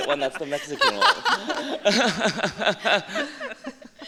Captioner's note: laughter